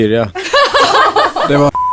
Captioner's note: laughs